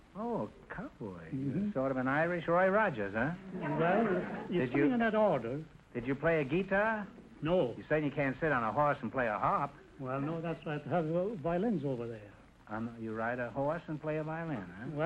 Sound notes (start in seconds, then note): 3.4 audience laughter